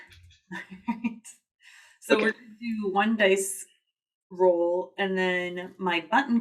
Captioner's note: laughs